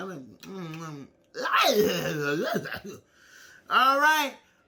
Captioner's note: gags